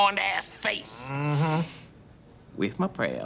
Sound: Key mmhmms

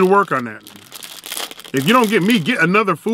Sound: wrapper crunching

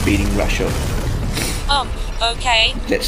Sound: sniff

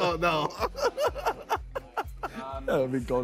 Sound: both laughing

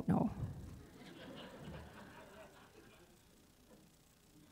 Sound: audience laughing

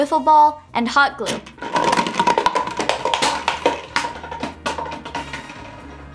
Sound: bottles falling

